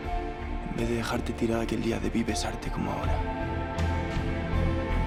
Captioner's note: Nick speaks in Spanish